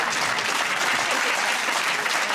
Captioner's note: laughter and applause